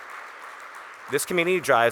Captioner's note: audience Applauding